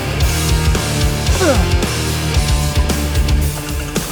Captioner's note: grunts